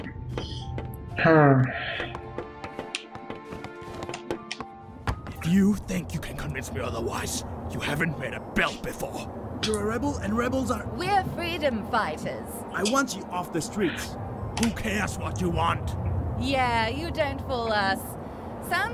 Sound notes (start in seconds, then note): 9.8 scoffs; 13.3 scoffs